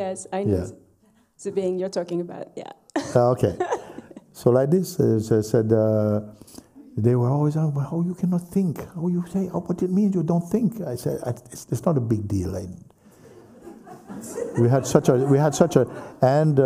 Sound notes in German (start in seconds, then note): 13.3 Lachen